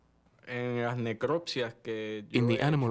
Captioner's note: speaking spanish